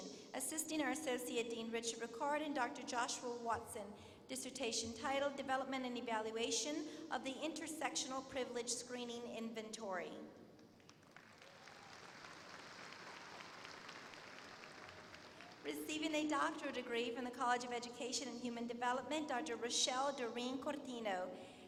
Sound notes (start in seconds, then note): 10.7 applause